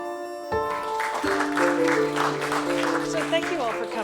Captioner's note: applause